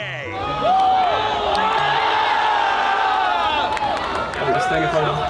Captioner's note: crowd cheering